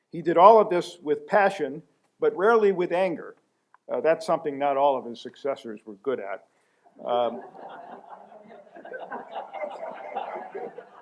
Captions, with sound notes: He did all of this with passion but rarely with anger. That's something not all of his successors were good at. [LAUGHTER]